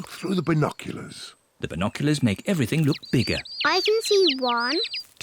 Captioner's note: chirping